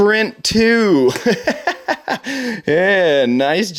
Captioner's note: laughing